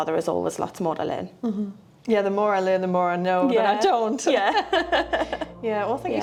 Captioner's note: laughs